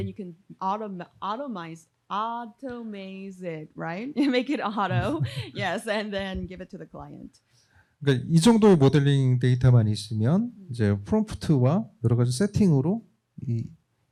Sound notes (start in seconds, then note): 8.0 speaking korean